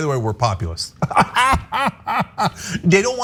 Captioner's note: laugh